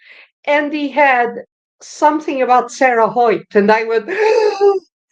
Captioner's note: gasp!